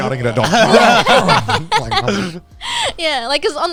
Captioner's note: barking